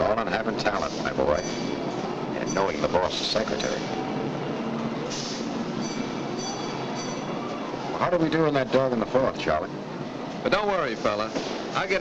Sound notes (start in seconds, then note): 5.8 bell dinging nearby